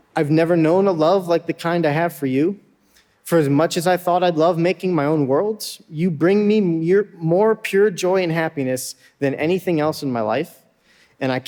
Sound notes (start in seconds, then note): none